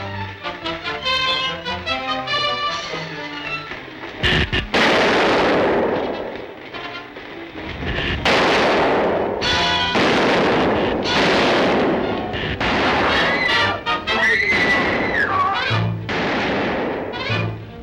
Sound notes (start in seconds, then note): 12.7 Diana screams